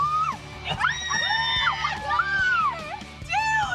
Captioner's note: girls squealing